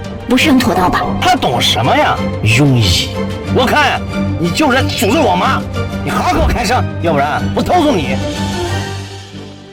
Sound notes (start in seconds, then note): 6.1 cursing